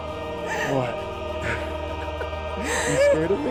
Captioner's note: Gabby sobbing